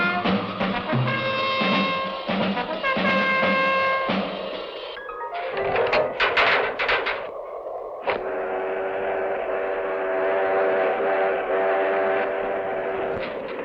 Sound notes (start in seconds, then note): 5.4 rattling; 8.0 train whistling